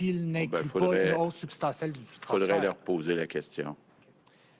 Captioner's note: speaks French